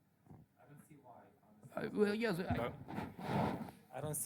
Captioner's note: voiceover